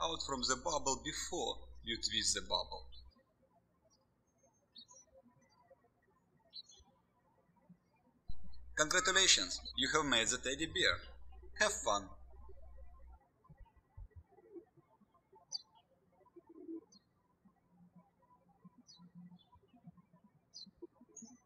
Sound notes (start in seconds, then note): 4.2 birds chirping; 12.7 birds chirping